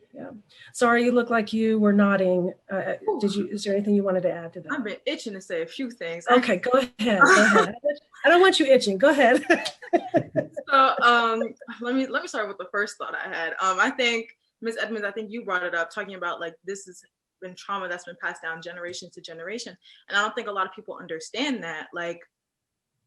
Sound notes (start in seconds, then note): 9.3 laughs